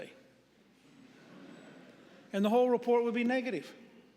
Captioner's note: audience murmuring